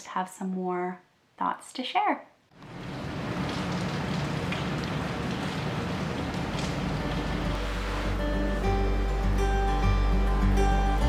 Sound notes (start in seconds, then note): 2.5 rain; 8.4 soft guitar music